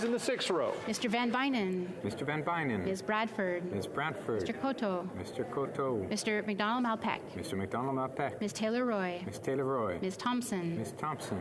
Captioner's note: calling of recorded vote